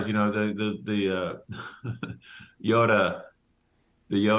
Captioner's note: laughs